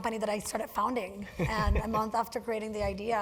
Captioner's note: laugh